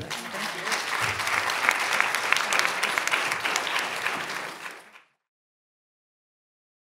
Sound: applause

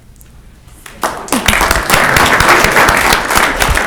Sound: clapping

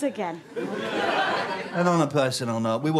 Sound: audience laughter

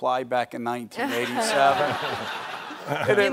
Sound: audience laughing

